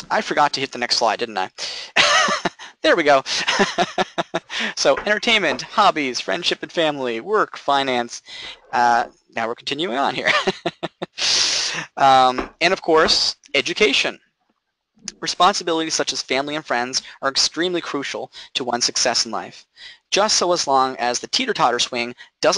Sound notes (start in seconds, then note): 3.2 laughing; 10.2 laughing